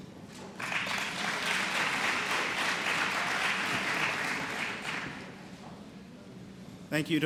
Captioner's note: applause